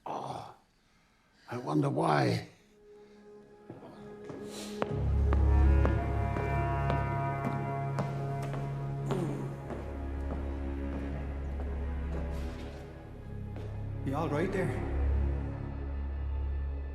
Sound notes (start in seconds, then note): 0.3 Frederick grunts; 4.0 ominous music; 4.7 footsteps tapping